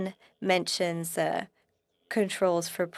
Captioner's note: speaking French